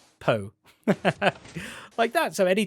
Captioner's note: laughs